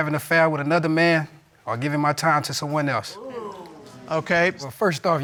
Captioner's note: audience exclaiming